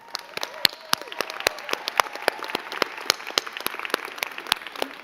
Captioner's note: crowd cheering and clapping